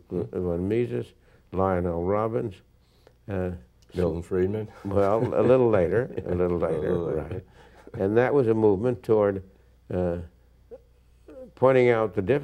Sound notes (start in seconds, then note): 4.8 chuckles